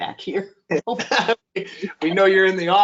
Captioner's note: laughter